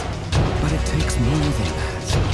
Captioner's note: somber